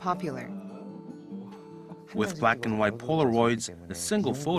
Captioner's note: Korean